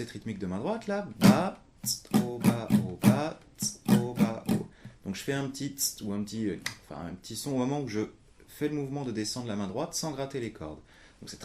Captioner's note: clic